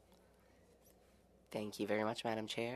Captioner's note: speaking French